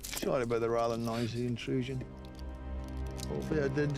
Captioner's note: scottish accent